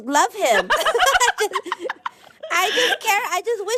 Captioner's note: laughter